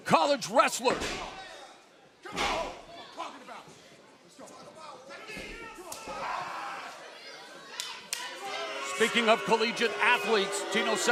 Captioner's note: crowd chatter